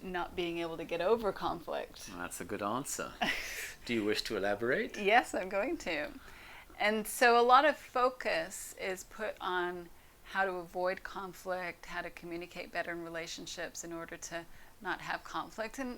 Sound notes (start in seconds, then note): 3.2 laughs